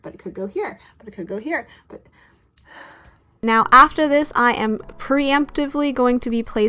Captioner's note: sigh